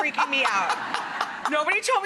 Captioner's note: laughing